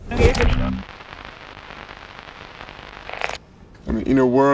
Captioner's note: static crackling